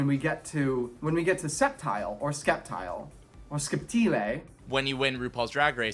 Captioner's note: Italian accent